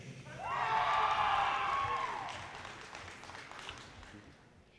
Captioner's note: audience cheers and applause